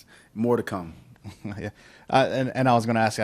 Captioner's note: laughs